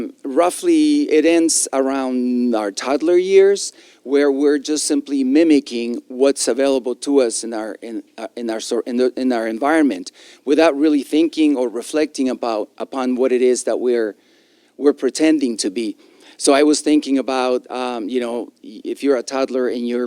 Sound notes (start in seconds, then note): none